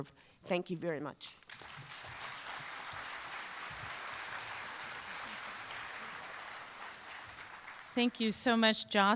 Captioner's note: applause